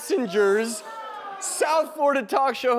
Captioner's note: audience groaning